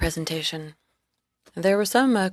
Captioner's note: speaking FRENCH